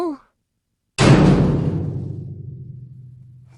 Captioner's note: cell door slamming